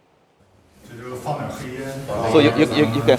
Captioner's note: director speaking foreign language